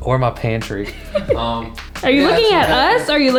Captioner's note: laughing